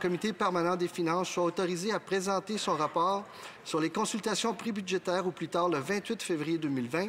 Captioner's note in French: voix de l'interprète